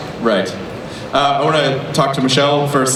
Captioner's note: voiceover